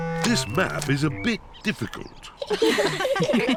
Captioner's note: all laughing